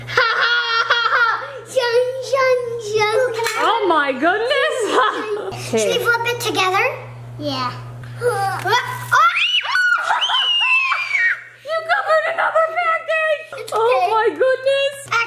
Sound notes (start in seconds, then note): 9.1 scream